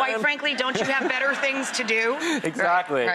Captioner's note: audience laughs